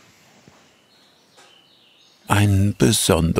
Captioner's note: birdsong